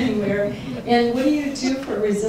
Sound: audience laughing

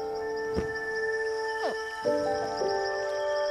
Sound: hatchling grunts

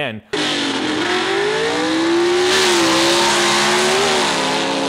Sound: engine screeching

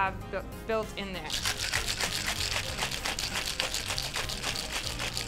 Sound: ice shaking in glass

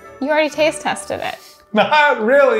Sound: chuckling

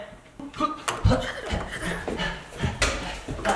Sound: panting

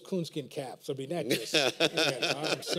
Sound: laughter

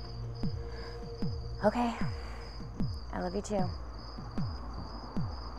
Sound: sighs

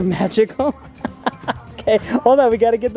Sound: laughs

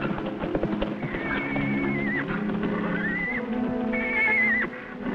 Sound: Champion whinnies

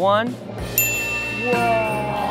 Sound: bell rings

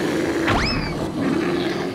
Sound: bear growling

